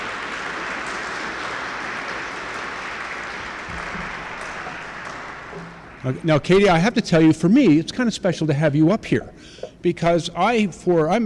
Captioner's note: applause